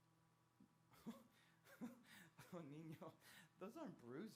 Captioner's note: chuckles